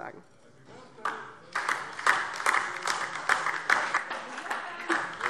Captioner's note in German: Beifall DIE LINKE